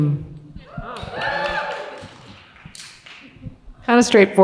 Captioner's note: audience cheers